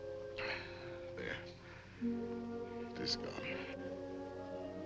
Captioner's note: gasp